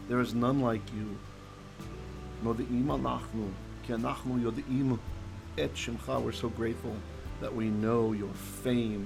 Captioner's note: Hebrew; Hebrew